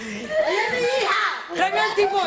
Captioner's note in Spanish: gritan